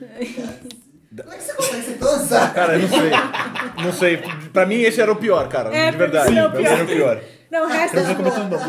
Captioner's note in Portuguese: risos